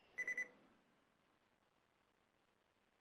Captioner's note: beeping